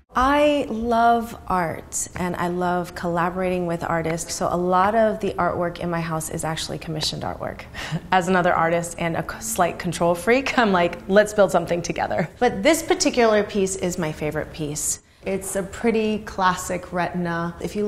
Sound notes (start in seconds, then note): 7.7 chuckles